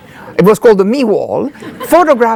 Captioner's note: audience laughing